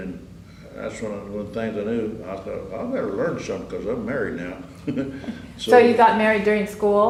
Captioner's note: laughs